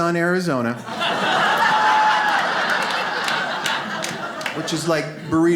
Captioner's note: audience laughs